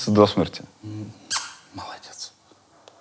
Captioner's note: smooches